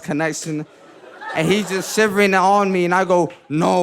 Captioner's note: audience laughing